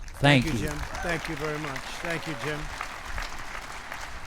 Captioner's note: applause